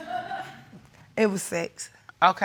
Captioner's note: audience laughing